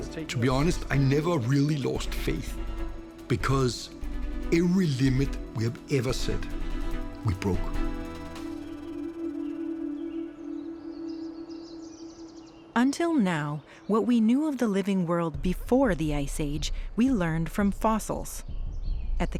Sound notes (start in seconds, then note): 8.0 birds chirping